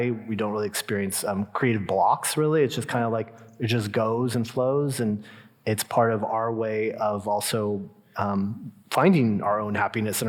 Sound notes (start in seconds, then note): none